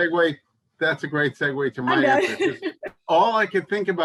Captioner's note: laughs